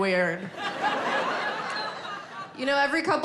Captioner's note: audience laughing